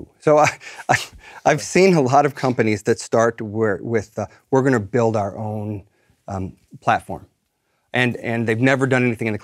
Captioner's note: laugh